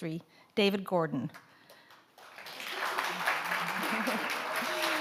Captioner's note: audience applauds